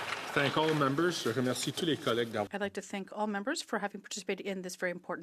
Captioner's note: some Applause